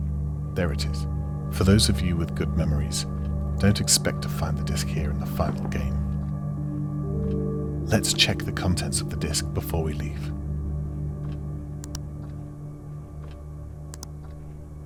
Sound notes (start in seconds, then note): 0.0 clock ticking; 11.8 mouse clicking